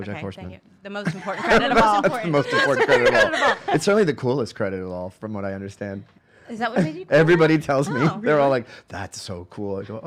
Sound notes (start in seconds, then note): 1.1 laughing